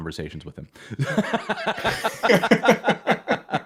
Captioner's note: laughter